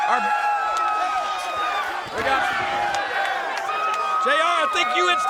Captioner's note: crowd chattering